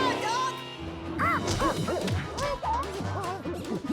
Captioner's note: clyde screeches and whimpers